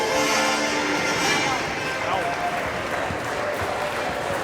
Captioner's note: applause